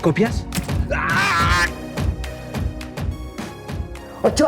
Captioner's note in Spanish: Grito